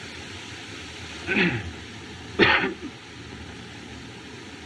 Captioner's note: clears Throat, Coughs